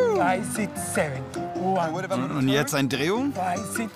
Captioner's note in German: englisch